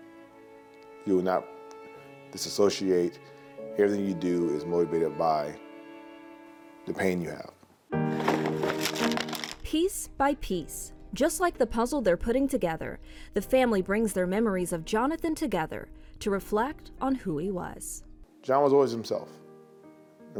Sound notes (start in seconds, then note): 8.1 gentle music; 8.1 puzzle pieces scattering